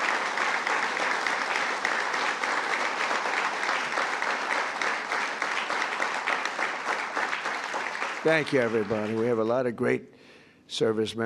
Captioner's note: applause